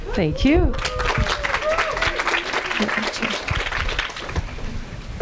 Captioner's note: audience applauding